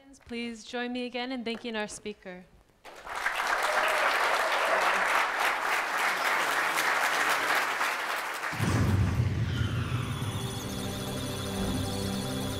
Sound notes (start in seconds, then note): 2.8 applause; 9.4 electronic sounds of data; 9.8 musical tones